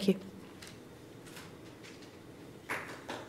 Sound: applause

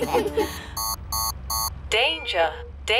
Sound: laughter; beeping

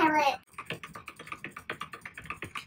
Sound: frantic clicking

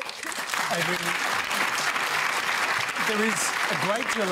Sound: applause

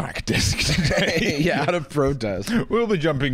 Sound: laughing

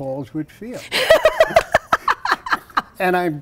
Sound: laughs

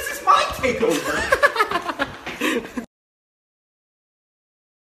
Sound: laughing

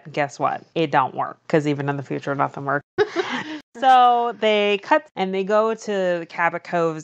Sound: laughs

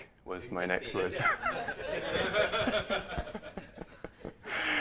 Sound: laughter

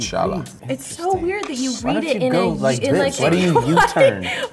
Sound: laughing

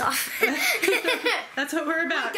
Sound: laughing

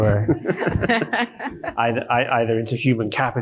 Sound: panelist laughs

